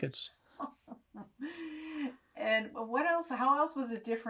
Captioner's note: laughing